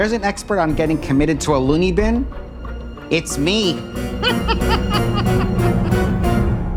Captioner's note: giggling